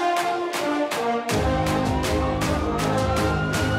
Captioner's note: siren wailing